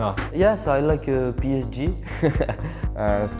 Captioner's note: laughs